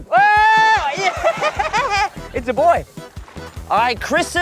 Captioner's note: laughs